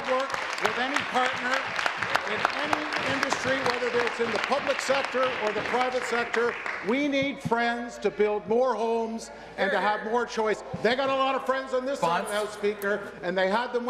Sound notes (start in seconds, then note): 2.7 applause